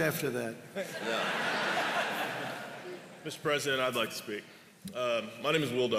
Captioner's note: laughter